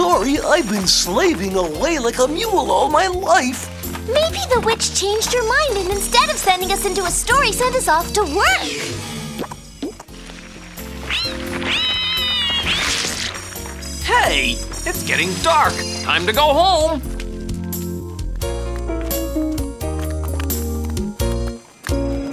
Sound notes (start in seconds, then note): 9.8 mud splattering; 10.9 mice shrieking; 18.2 gentle instrumental music